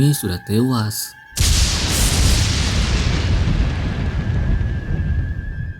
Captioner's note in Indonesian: Petir Menggelegar